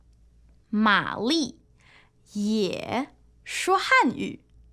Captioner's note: 说汉语